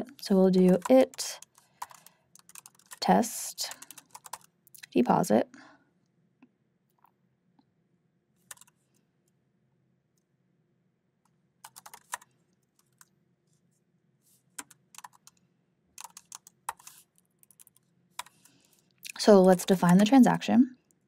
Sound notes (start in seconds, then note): 8.5 keyboard clacking